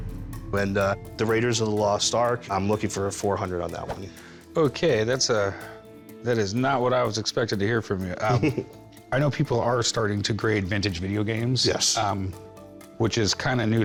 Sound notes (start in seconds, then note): 8.2 chuckles